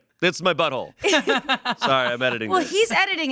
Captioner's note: everyone laughs